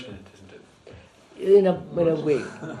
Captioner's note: laughs